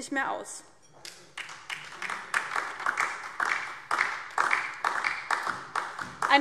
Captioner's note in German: Beifall DIE LINKE und vereinzelt SPD